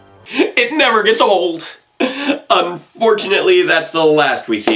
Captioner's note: none